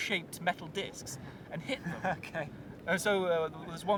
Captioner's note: laughing